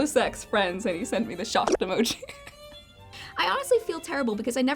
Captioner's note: laughs